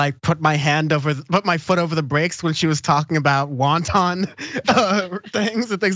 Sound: laugh

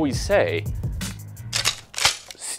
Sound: gun cocking

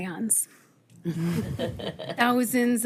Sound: all chuckling

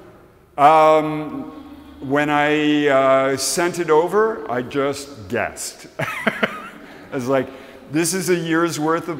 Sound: laughs

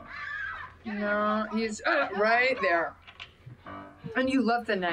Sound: jump scare

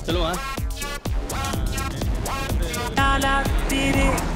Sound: indistinct chatter

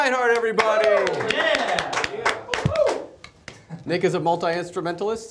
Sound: studio cheers and claps

